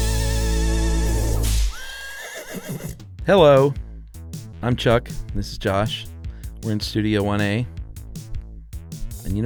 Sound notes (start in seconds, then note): 1.4 whip cracks; 1.6 horse whinnies